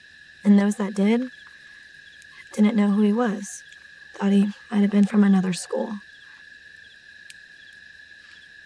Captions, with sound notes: And those that did, didn't know who he was... thought he might have been from another school. (Crickets Chirping Continues)